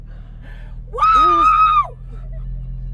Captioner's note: screaming